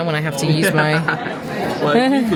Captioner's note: laughing